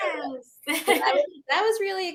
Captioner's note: laughing